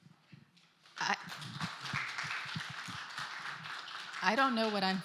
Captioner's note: applause